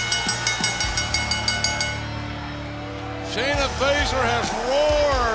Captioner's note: bell ringing